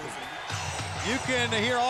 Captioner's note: audience cheers